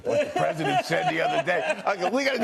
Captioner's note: laughter